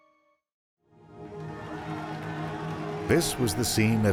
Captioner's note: cheering